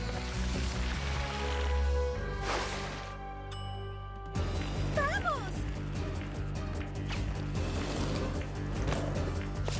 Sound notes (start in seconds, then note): 3.5 ding